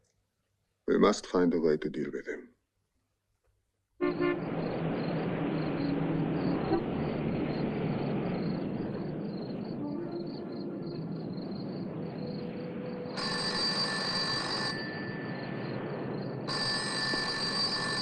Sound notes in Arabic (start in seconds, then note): 4.0 صوت أبواق السيارة; 13.0 يرن الهاتف